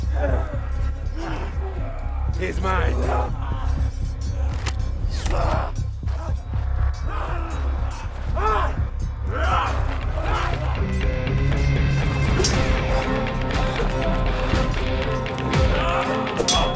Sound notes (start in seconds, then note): 0.2 dramatic music; 3.8 dramatic music; 9.2 fighters shouting; 13.9 dramatic music